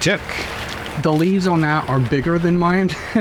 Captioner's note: laugh